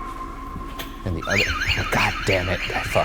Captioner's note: alarm wailing